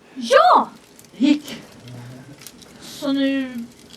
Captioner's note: the fire crackles